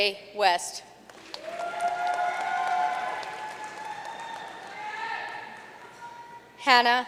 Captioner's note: audience cheering and applauding